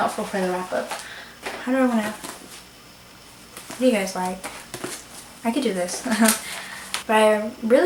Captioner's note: laughs